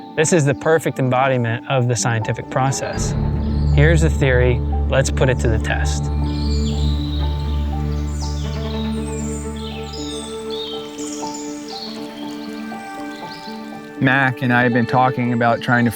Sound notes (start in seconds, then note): 6.7 birds chirping; 6.7 pensive music